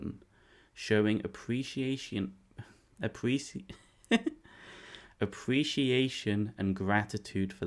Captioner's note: laugh